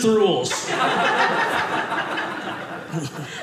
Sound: audience laughing

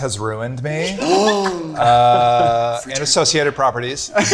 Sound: gasps

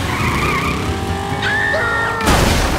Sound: screaming

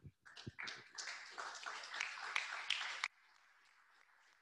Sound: applause

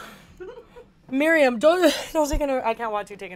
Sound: gags

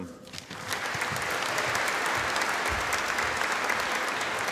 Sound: audience applauding

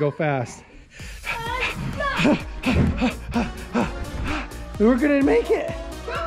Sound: heavy breathing

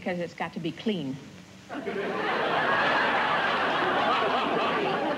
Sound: laughter

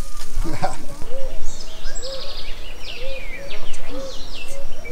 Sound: birds tweeting

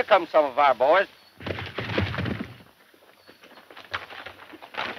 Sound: horses galloping

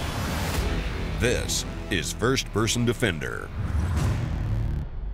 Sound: hard rock music; voiceover

